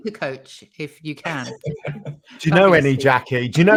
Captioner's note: laughing